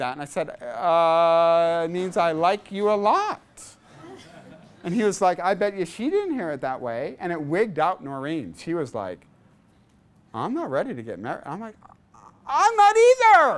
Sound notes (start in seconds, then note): 3.8 class laughs